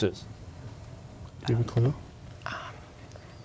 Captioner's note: whispering